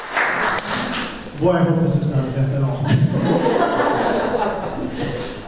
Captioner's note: laughter